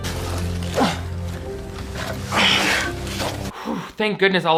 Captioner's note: sighs